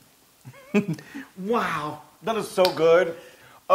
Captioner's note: laugh